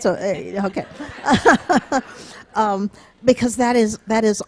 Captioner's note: audience laughing